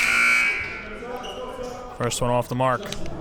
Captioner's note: buzzer blares